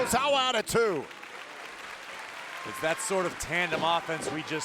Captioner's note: audience applauding